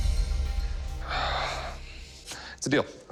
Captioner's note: sighs